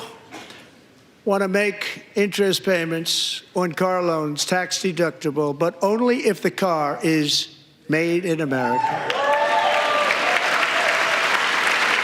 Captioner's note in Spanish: gritos